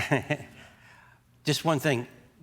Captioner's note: chuckles